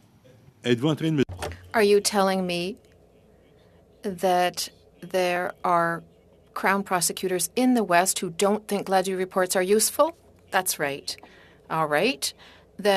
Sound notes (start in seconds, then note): 5.7 speaking French